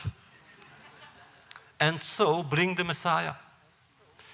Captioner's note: laughter